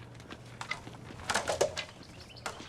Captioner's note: clanging